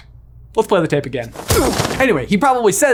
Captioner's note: exclaims in pain